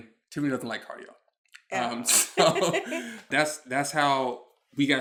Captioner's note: chuckles